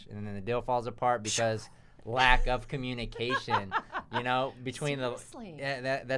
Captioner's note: laughs